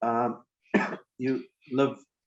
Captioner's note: coughs